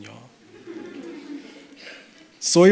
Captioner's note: chuckles